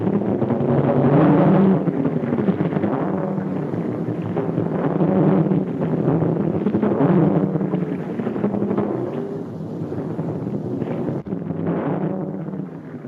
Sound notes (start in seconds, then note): none